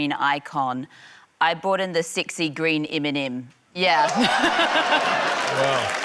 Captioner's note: laughter